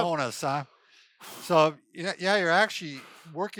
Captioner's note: exhales